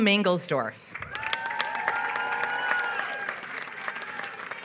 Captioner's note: applause